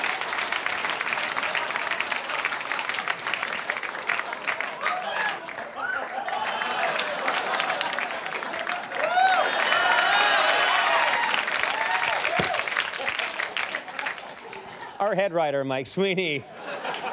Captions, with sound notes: (audience laughing) (audience applauding) Our head writer, Mike Sweeney.